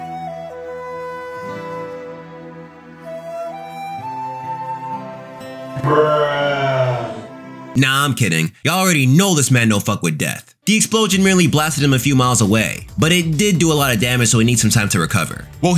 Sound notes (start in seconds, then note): 0.6 dramatic music; 5.7 groaning